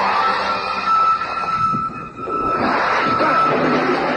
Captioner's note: wind blows